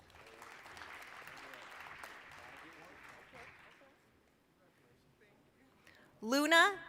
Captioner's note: applause